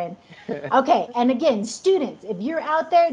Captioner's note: laughs